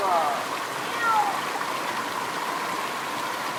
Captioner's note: cat meows